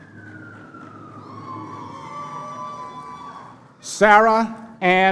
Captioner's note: cheering